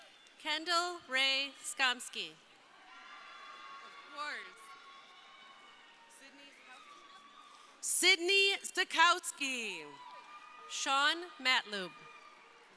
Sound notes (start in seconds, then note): 0.0 crowd cheering; 2.6 crowd cheering; 9.6 crowd cheering